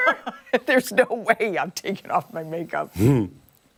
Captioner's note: laughter